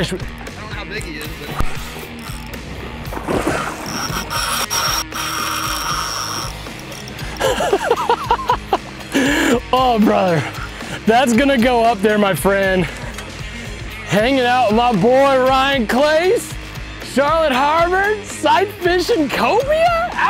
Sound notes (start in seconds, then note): 7.1 laughs